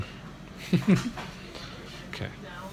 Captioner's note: laughs